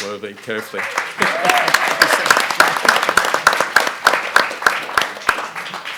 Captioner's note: audience and panelists applaud